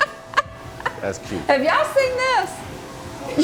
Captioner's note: laughing